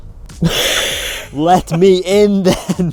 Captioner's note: laughing